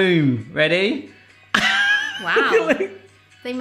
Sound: laughs

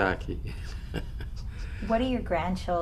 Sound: laughs

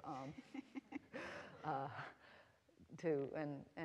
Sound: laughing

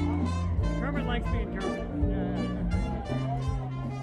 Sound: crowd noises / playing

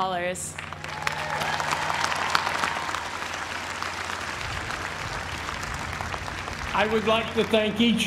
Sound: applause

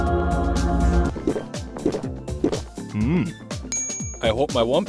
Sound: angelic music; swallowing; ping

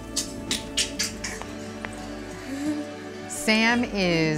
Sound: clicking tongue

